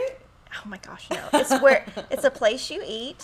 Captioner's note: guffaws